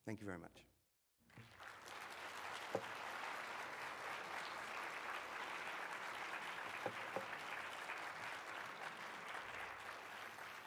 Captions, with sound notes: Thank you very much. (audience clapping)